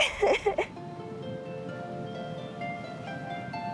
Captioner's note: laughing